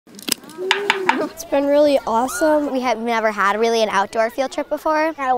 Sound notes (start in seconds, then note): 0.6 clicking - Banging Sounds